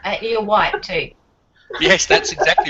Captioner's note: laughing